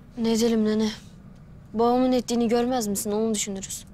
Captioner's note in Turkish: none